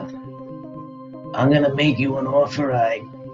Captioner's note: with Sicilian accent